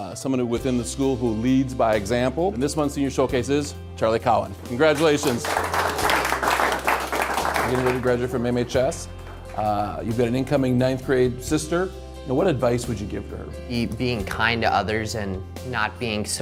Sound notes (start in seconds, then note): 4.9 applauding